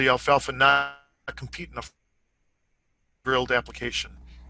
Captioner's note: audio buffering